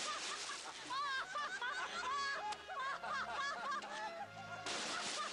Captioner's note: laughter